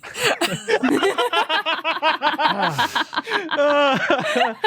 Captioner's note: guests laughing